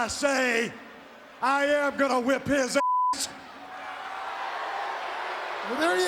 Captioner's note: beep